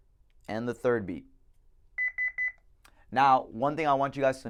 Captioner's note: beep beep beep